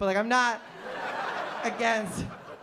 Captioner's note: laughter